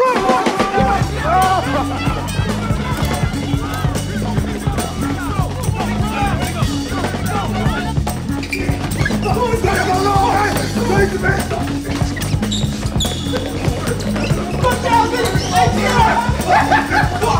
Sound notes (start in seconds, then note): 3.0 laughs; 6.4 all shouting; 15.0 excited chatter